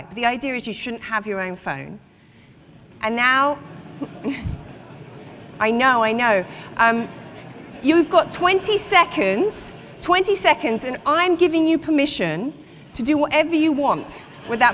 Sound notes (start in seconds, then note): 3.9 indistinct chatter